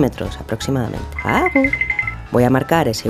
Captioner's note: footsteps